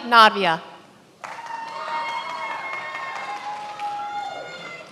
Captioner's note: many applauding